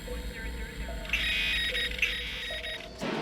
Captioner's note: high-pitched screeching; loud bang